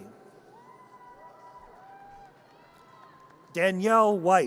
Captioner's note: audience cheers